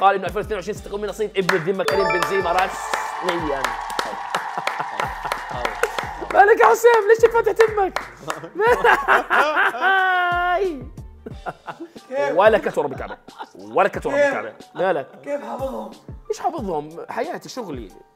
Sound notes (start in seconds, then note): 3.7 clapping; 8.5 laughs